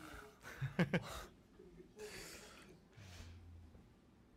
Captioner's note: laughs